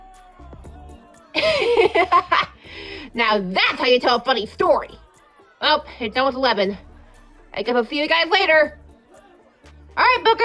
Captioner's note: laughing